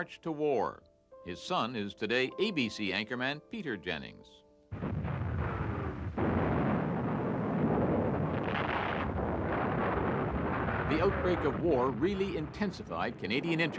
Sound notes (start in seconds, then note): 6.4 cannons firing; 10.2 explosions